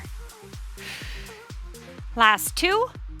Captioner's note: oxygen breathing